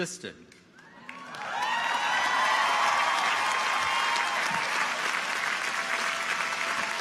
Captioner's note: audience applauds; audience cheers